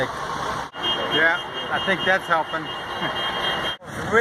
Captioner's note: honking noises